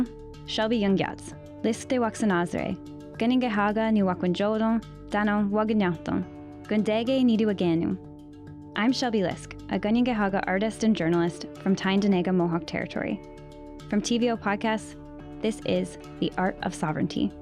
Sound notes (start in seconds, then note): 0.1 speaking Indigenous language